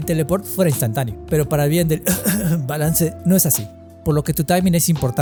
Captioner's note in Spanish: cof